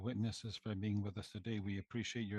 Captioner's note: speaking French